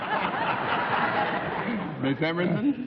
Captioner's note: laughter